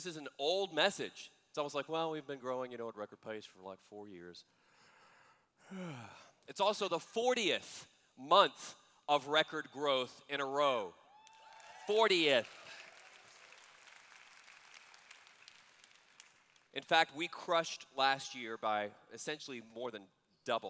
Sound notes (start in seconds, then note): 5.6 yawn; 12.9 applause